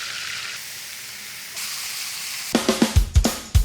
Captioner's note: oil sizzling; pan sizzling; upbeat beat